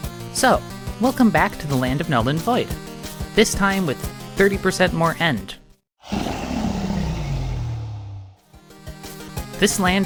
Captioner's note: roars